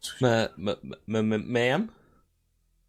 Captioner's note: stuttering